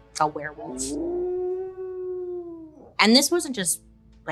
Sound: wolf howls

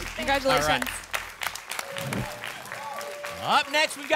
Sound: applause and cheering

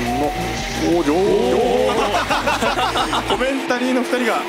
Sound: laugh

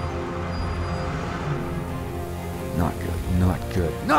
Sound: hissing

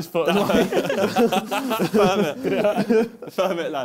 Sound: both laughing

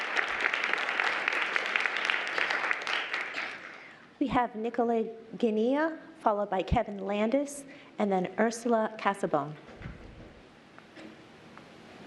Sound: applause

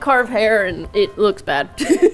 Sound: laughs

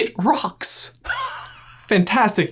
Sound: laughing

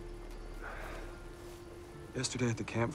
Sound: sighs deeply

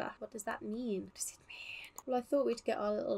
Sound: whispering

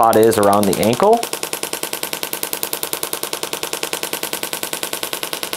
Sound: machine tapping

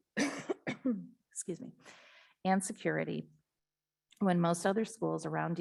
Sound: coughs

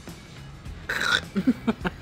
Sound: tries spitting; laughs

